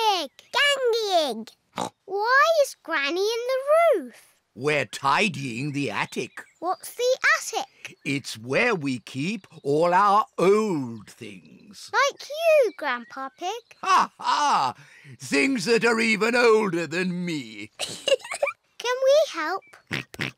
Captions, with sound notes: -Gangy Ig. -Why is Granny in the roof? -We're tidying the attic. -What's the attic? It's where we keep all our old things. -Like you, Grandpa Pig? -(LAUGHS) Things that are even older than me! -(GIGGLES) Can we help? -(OINKS)